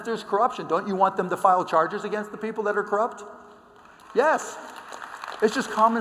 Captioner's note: applause